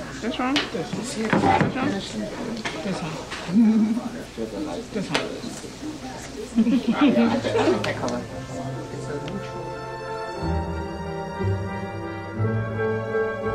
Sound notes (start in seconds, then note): 6.5 laughter; 9.9 classical music playing